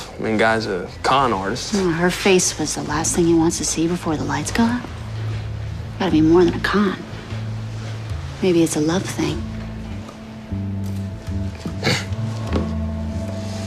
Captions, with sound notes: I mean guy's a con arti. No, her face was the last thing he wants to see 'before the lights go out?' Got to be more than a con. Maybe it's a love thing. [snickers]